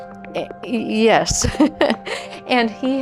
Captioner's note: laughs